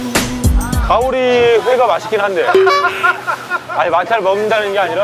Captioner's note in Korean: 웃음